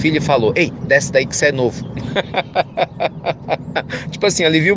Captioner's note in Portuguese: Risos